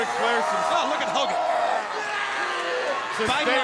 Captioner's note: Vader screaming